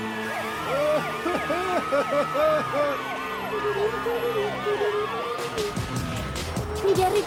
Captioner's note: sirens